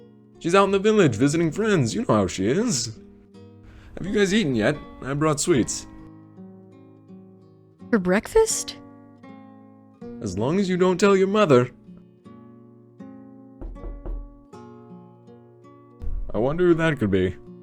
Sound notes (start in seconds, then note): 13.6 knocks on the door